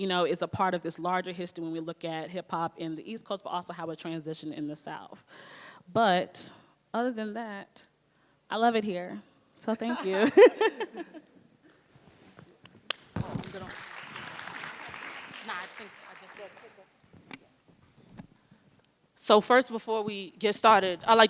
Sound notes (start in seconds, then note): 10.1 panelists chuckle; 13.2 audience applauds & indistinct chatter